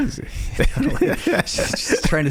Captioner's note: laughing